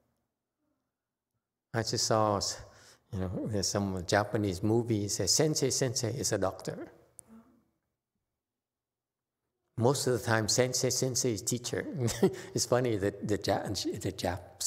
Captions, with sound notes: I just saw some Japanese movies that just says Sensei, sensei is a doctor. Most of the time, sensei, sensei is a teacher. It's funny [laughs] that the Jap- that the Japs